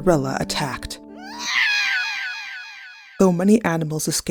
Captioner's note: cat yowling